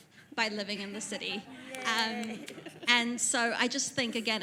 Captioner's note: audience laughs